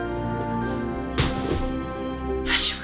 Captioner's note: thud on floor